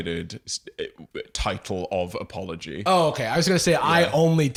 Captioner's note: stammering